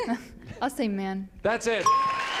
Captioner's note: applause and cheering; ding